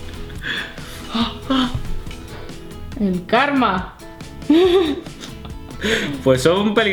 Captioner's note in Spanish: risas